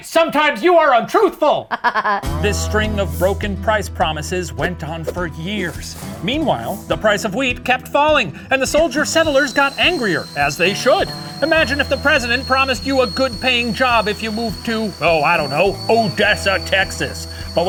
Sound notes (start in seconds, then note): 1.6 laughs